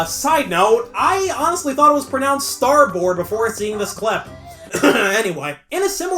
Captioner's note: cough